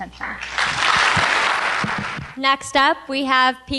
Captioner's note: applause